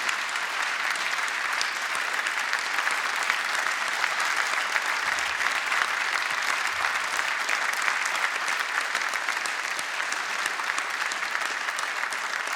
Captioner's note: applause